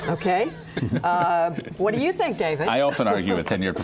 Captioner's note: laughter